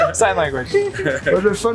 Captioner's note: laughing